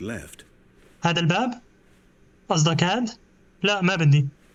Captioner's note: footsteps